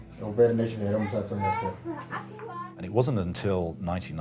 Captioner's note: speaking in foreign language